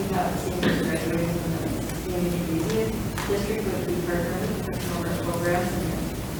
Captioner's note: speaks distantly